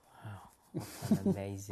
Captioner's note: laughs